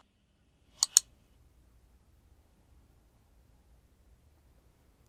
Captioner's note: mouse clicking